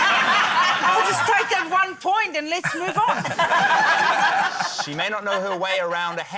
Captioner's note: laughter